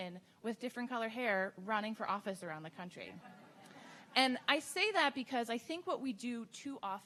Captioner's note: audience Laughing